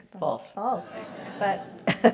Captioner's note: laugh